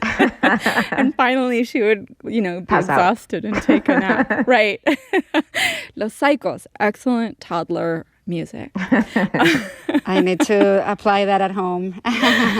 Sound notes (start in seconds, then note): 0.0 singing in non-English language; 0.0 laughter; 3.5 laughter; 8.7 laughter; 12.0 laughter